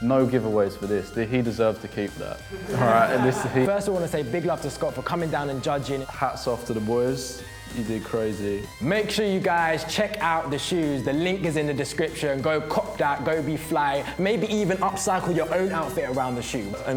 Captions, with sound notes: - No giveaways for this, he deserved to keep that. (laughs) - First, I want to say big love to Scott for coming down and judging. - Hats off to the boys, you did crazy. - Make sure you guys check out the shoes. The link is in the description. Go cop that, go be fly. Maybe even upcycle your own outfit around the shoes.